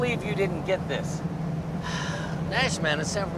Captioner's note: sighs